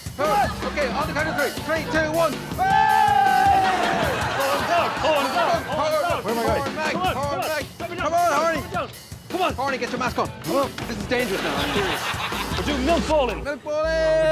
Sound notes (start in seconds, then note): 2.5 cheers; 5.5 chants